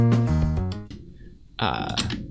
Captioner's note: keyboard clicking